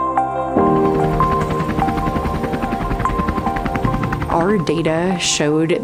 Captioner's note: chopper blade slapping